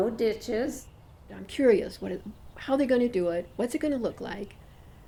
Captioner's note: voiceover